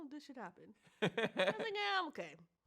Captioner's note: laughs